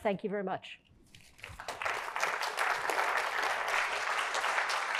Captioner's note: applause